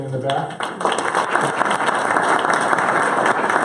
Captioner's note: clapping